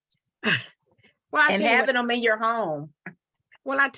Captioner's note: chuckles